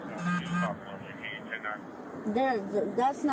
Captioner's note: radio chatter